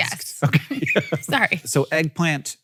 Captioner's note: laughs